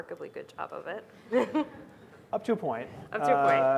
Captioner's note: laughing